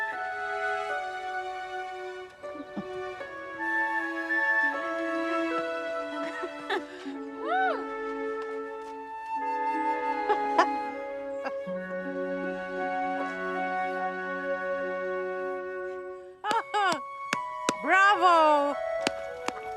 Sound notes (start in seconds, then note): 0.1 light orchestral music; 2.5 Sarah chuckles; 6.0 laughing; 10.0 light orchestral music; 10.0 Sarah laughing; 16.5 laughing